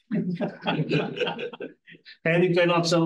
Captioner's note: audience chuckles